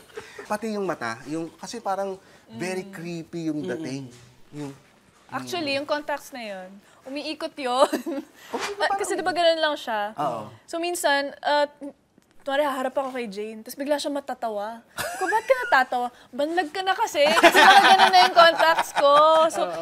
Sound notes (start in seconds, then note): 8.0 chuckles